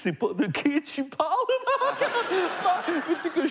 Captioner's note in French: rires